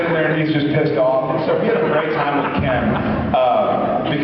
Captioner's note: laughs